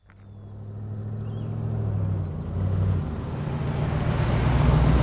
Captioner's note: vehicle rumbling